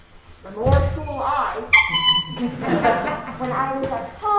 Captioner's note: tooting